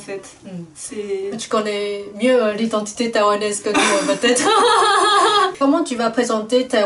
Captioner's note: laughs